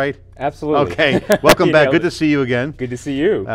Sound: laughing

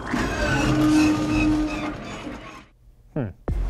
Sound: hyperdrive breaks down sound effect

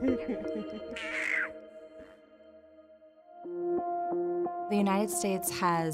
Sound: baby laughs

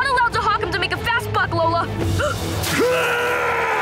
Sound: gasping; screaming

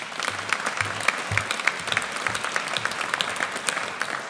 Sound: audience applauds

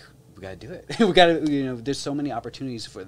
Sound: chuckles

